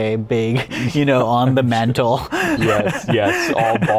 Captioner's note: laughs